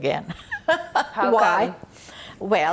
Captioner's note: laughing